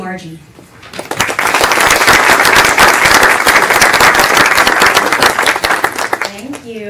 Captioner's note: applause